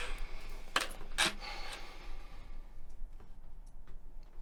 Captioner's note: Mervin sighs